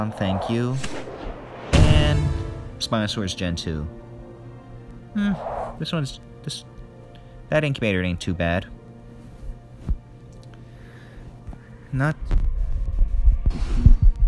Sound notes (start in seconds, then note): 10.6 mic cuts out